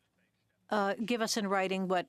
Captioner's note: speaking French